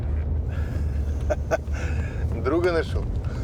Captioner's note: laughs